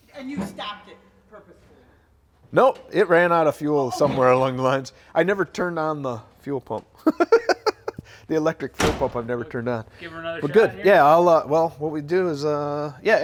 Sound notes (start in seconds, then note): 7.0 laughs